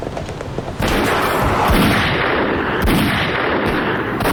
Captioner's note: guns firing